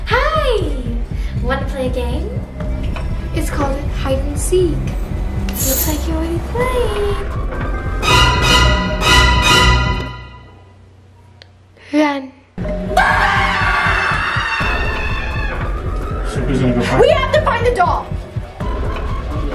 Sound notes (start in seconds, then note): 7.7 scary music; 12.9 screaming